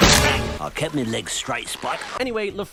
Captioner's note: splat